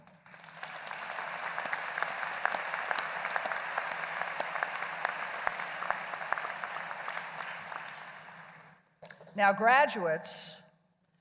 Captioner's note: applause